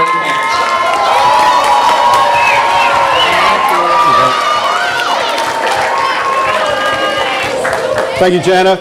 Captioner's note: audience applause